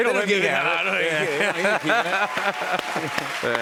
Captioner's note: laughter